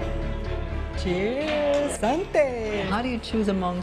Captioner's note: in English and French